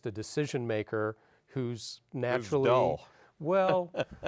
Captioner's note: laughs